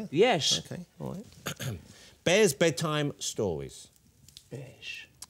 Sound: clears throat

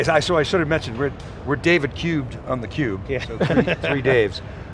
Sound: all laughing

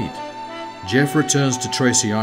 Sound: jet whirring

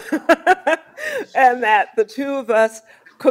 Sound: laughs

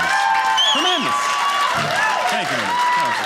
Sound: audience cheering

